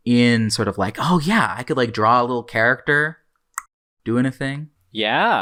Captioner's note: tongue click